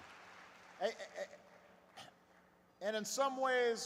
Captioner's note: applause